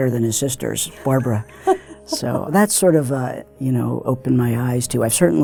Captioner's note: laugh